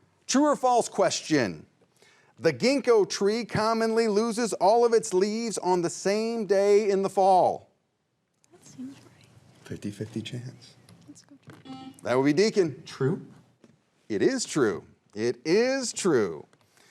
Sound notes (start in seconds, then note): 11.6 buzzer rings